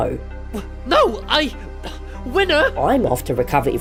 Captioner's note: breathes heavily